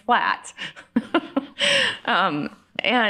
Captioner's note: laughs